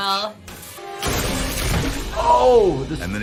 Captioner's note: wood splintering